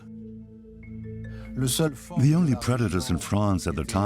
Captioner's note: French dubbed into English